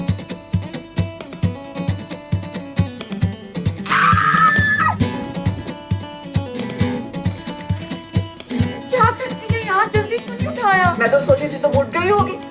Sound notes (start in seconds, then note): 3.8 screams